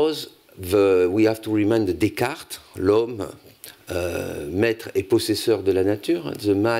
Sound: speaking french

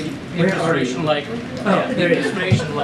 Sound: laughter

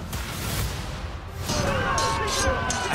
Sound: crowd clamoring

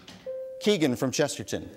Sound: bell dings

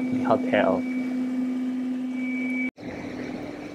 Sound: robot hums

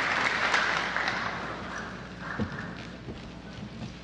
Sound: applause

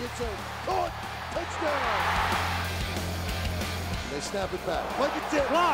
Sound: crowd cheers

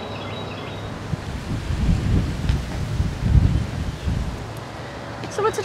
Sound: sound of birds chirping and wind blowing

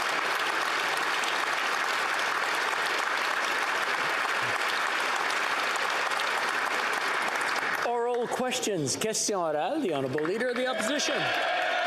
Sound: applause

